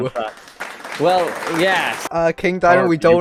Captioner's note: applause